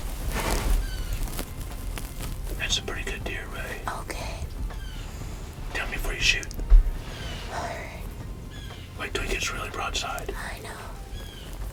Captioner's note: whispering